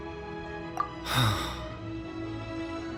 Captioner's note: sigh